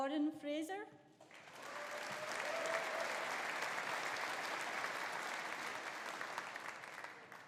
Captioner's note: audience applauding; audience cheering